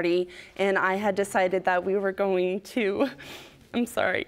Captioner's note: voice breaking